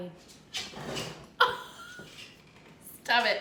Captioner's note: laughing